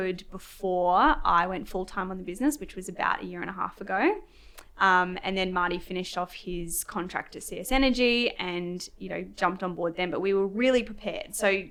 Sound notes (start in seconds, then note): none